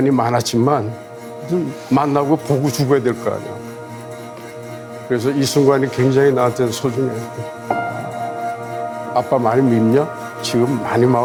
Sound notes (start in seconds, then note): 0.1 speaking Korean; 5.5 speaking Korean; 8.3 intense music